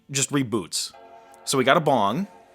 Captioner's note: startup sound